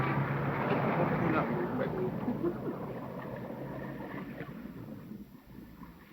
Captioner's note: laughing